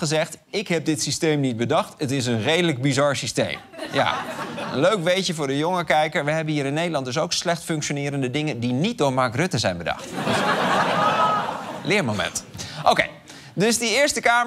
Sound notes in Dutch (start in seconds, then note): 10.0 gelach